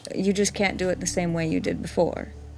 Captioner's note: none